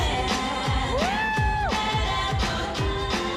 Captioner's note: applause and cheering